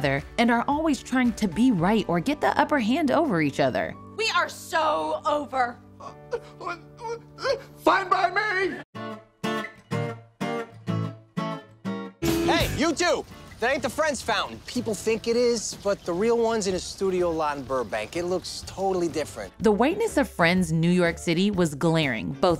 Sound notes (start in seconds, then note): 6.0 pretends to cry